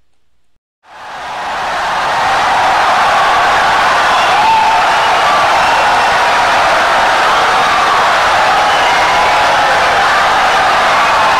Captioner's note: wild applause and cheering for 17 seconds